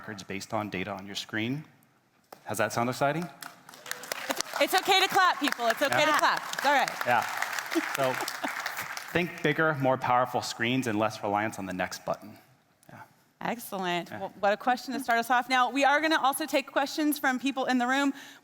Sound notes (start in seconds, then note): 2.8 attendees clapping; 7.7 laughing